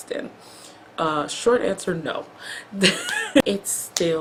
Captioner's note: laughs